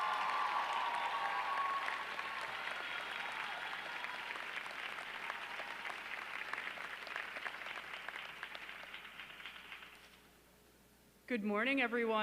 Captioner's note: applause